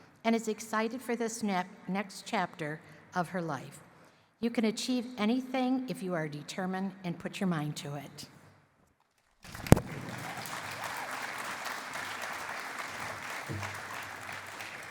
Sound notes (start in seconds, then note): 9.4 applause